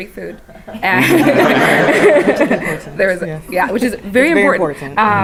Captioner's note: laugh; laugh